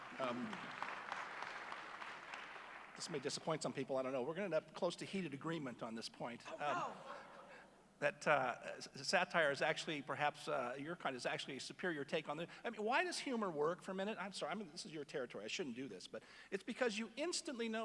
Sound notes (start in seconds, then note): 0.0 applause; 7.3 laughter